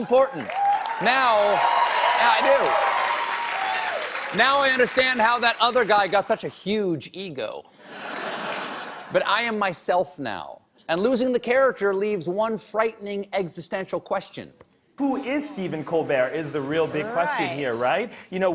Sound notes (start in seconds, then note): 0.0 cheers and applause; 7.8 laughter